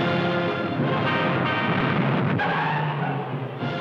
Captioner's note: car honking